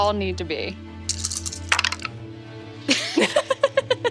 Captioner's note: dice rattle and tap table; laughing